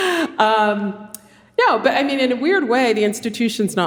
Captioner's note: laughs